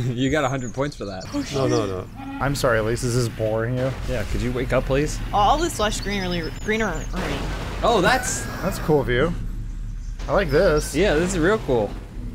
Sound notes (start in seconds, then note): 1.5 yawning